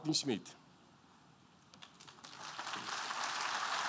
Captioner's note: applause